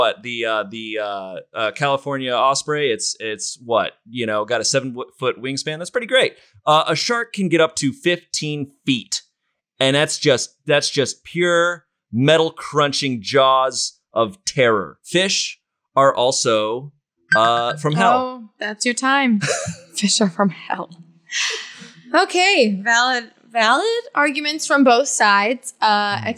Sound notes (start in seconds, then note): 17.3 timer rings